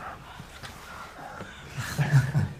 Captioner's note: breaths catching; lips smack; people chuckling